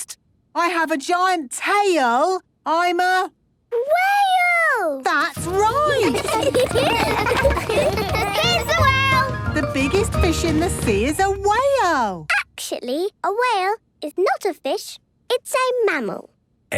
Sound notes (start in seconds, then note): 5.4 laughter